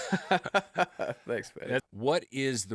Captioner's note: laughs